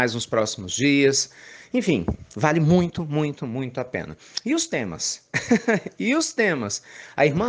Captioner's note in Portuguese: Risos